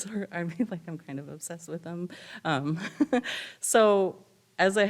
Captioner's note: laughs